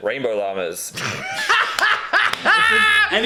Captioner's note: both laugh